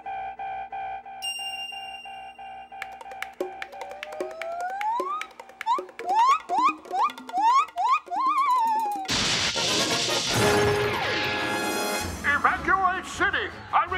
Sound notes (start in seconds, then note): 4.2 monkey squeaking; 10.1 adventurous music